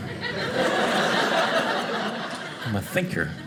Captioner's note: audience laughing